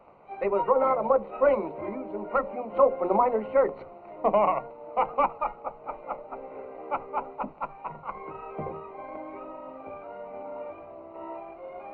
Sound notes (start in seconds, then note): 4.1 laughs; 8.7 tranquil music